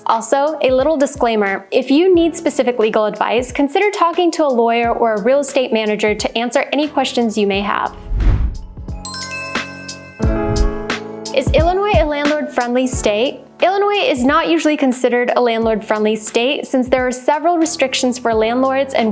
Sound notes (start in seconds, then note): 8.5 smooth upbeat music; 8.9 logo twinkles